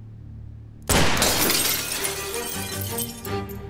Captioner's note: gunfire; glass breaking sound